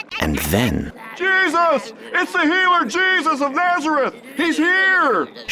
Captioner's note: male Voice